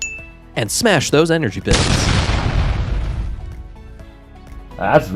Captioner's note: explosion sound